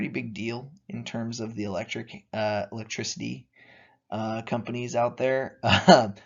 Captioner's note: chuckling